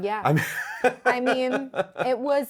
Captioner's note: laughs